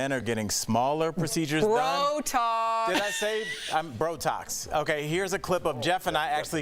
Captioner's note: laughter